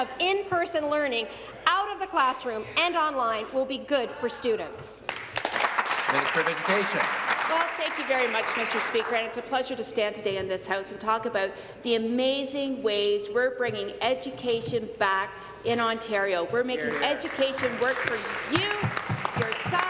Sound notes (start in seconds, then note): 7.6 applause